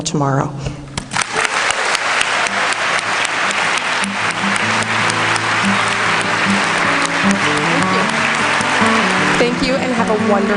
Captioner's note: applause